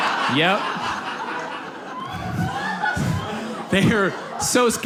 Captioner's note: audience laughs